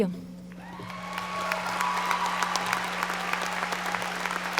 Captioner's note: audience applauding